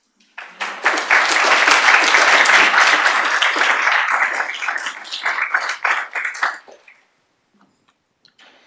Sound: applause

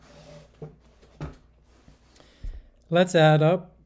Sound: chair rasps

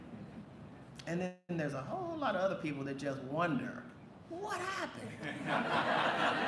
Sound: laughter

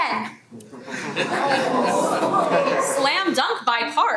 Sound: audience mumbling

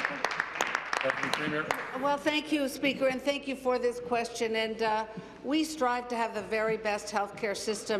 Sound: applause

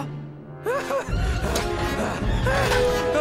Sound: panting

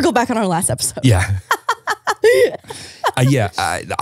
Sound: laughing

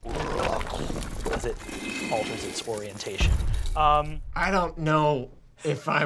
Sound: growls

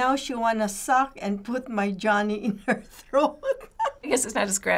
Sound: laughs

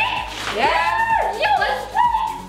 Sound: shouting

